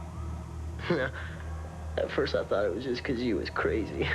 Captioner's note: chuckling